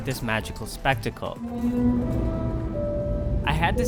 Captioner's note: man blows horn